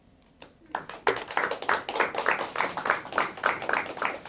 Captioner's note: applause